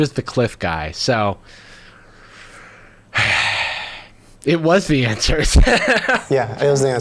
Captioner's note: sighs; laughing